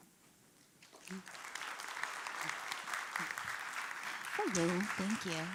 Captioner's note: applauding